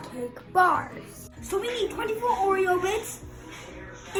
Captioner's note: crushed